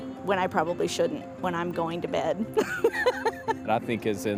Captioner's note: laughs